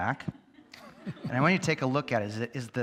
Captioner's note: audience laughs